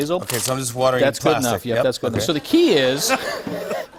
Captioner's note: laughter